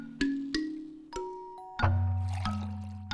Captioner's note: ding, splash